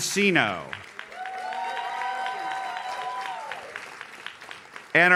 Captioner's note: audience cheers